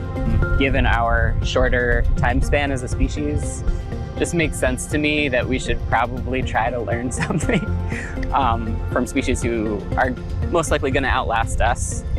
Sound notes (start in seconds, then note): 7.1 chuckling